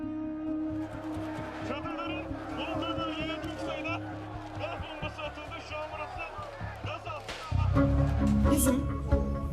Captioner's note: protestors yelling